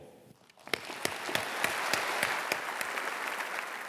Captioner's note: applause